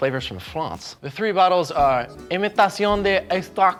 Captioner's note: imitating foreign language